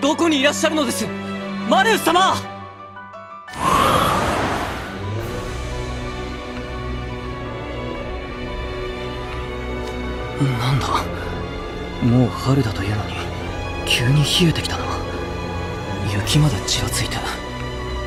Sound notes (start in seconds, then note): 3.6 wind blows